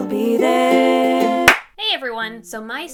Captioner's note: clap